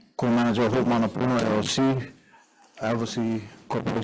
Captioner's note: speaks Hawaiian